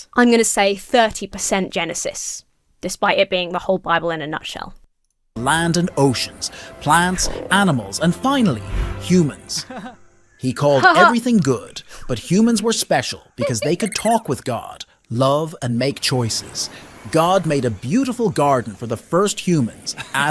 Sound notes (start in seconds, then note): 10.5 man chuckles; 10.6 imitates man chucking